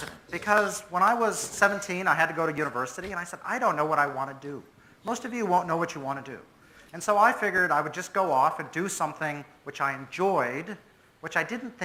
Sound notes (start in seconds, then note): none